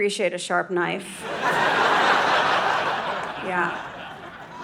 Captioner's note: audience laughing